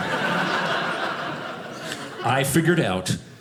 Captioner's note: audience laughing